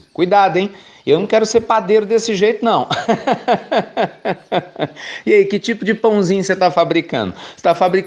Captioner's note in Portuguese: Risos